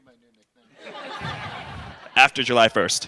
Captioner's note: laughter